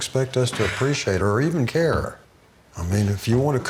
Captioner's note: Angela sighing